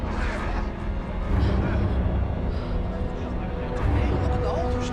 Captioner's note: gasps